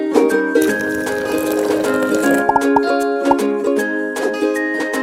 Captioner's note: bright music; coffee gurgling